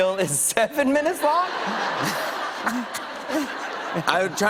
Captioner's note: laughter; chuckling